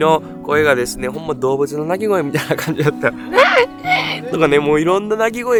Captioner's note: laughs